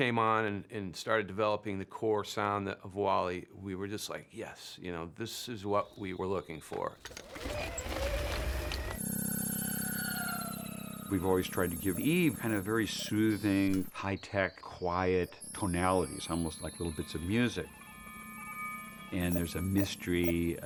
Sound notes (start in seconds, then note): 6.8 whirring; 8.8 melodic whirring